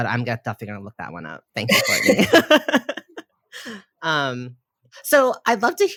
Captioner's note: both laugh